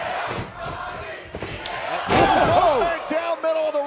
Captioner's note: fans chanting